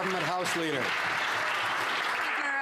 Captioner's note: some Applause